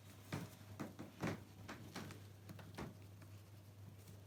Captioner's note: floor boards creak